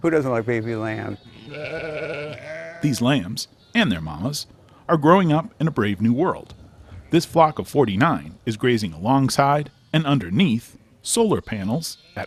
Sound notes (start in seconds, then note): 1.0 lambs bleating